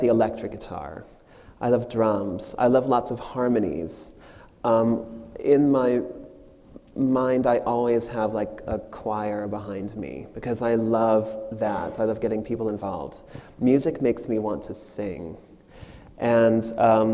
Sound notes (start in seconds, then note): none